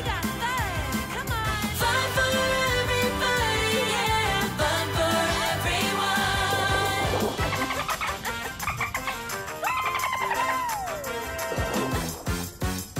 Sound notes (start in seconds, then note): 7.3 dolphins laughing